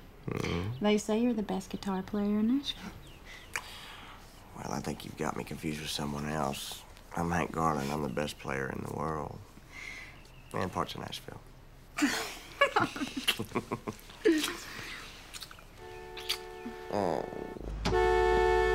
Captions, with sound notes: They say you're the best guitar player in Nashville. - Well, I think you've got me confused with someone else. I'm Hank Garland; I'm the best player in the world. And parts of Nashville. (laughs) (car horn honks)